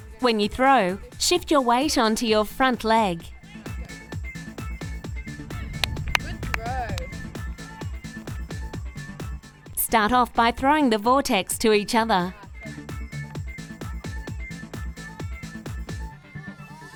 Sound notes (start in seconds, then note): 6.4 clapping; 9.6 voiceover; 13.1 fast-paced music